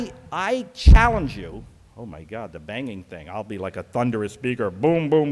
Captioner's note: banging noise